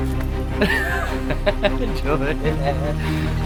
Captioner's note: laughing